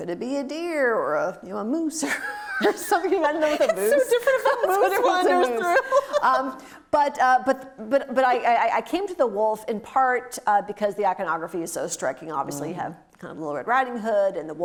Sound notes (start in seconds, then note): 6.4 laughing